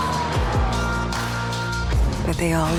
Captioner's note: sirens blaring